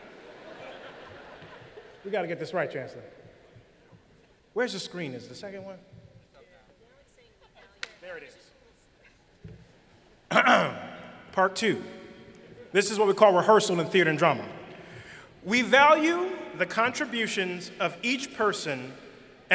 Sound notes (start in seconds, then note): 0.1 laughter; 10.3 clearing throat